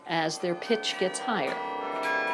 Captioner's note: bells